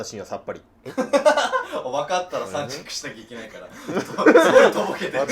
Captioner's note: laughing